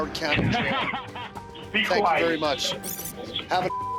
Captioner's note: laughs